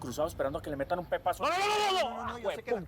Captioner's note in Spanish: el herido grita